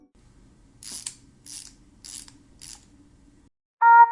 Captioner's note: wind-Up Key Turning